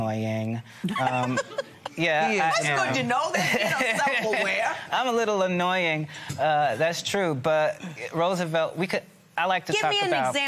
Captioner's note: laughter